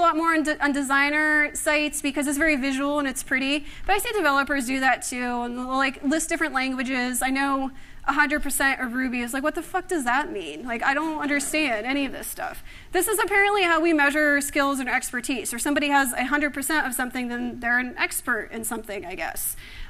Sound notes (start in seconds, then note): 11.0 laughter